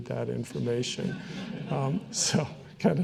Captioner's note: audience chuckling